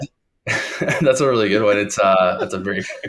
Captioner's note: laughing